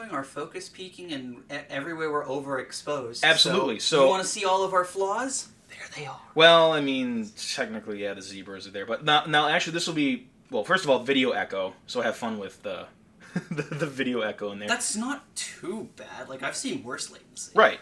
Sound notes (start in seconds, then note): 13.2 laughing